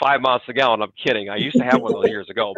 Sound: chuckles

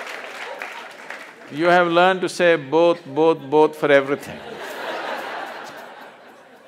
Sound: laughter

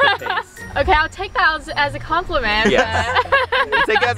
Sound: laughs

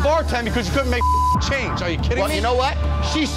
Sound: beep

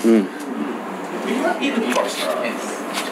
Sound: attendees grunt appreciatively

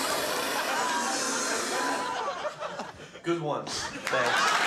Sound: man spitting loudly

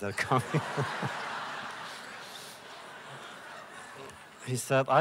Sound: laughter

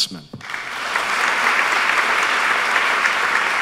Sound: applause

